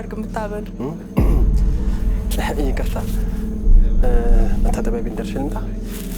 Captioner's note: clears throat